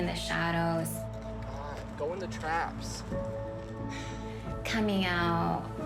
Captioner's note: sighs